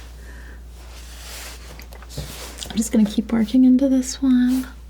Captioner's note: none